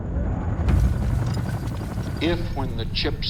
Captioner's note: helicopter rotor blades whirring